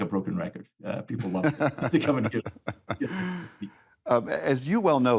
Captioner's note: laughs